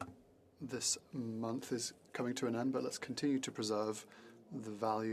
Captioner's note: speaking in French